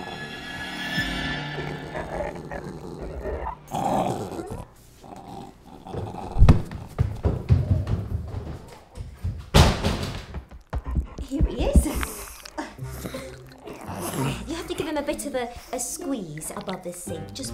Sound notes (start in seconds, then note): 6.3 door slams; 6.5 rushing footsteps